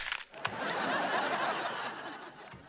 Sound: laughing

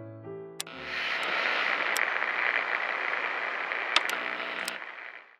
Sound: piano music; radio detuning and turning off

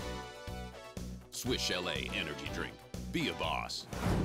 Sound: voiceover

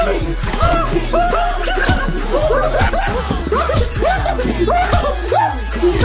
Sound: kicks

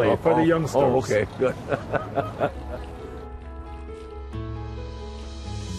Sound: laughs

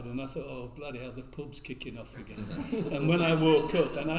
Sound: all laugh

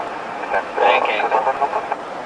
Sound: bank Angle Warning

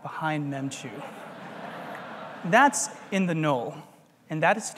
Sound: laugh

